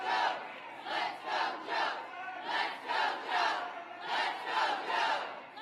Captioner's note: applause